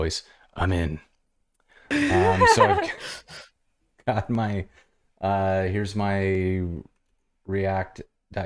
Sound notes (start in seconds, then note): 1.9 laughter